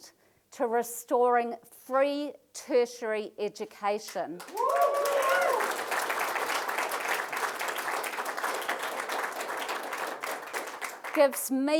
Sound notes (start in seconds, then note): 4.3 applause